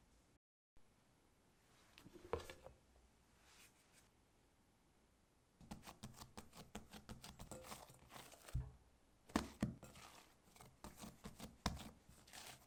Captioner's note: folding